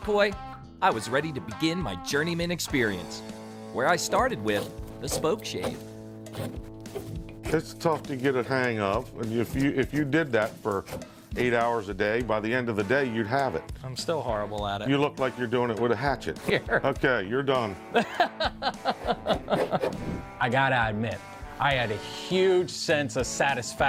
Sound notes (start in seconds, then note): 6.2 rough grating; 16.4 laughs